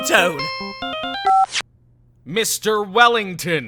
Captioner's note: phone beeps, ringtone stops